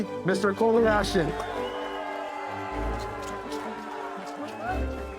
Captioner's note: people applauding